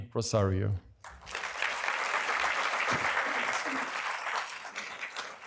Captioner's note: applause